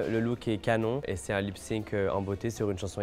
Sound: speaking French

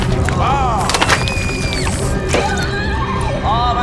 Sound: screams

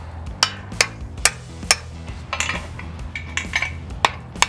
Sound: hammer hitting metal

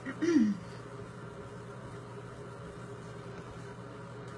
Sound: clears throat

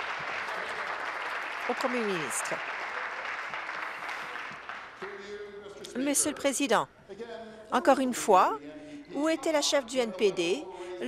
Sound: applause

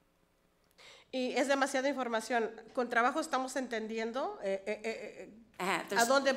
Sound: speaks foreign language

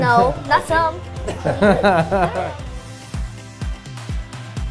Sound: laughing

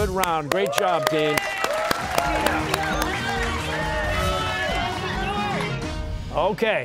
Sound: cheers and applause

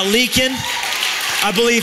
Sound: applause; cheering

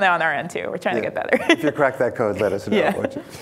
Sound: laughs

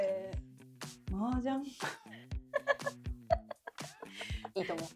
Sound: laughs

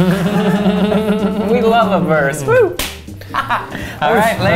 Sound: giggles; laughs

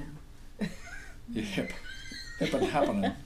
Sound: voiceover

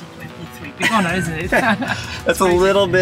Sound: host chuckles

